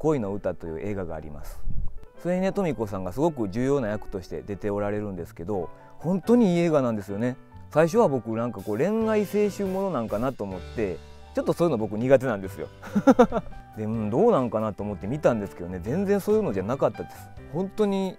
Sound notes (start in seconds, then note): 12.9 laughs